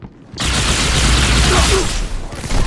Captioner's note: weapon firing